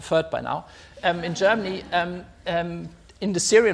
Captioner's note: audience laughs